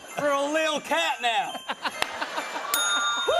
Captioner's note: laughter; cheering and laughter; bell dings